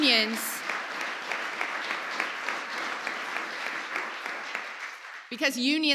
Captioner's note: applause